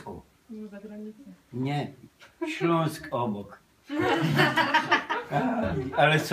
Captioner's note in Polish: śmiech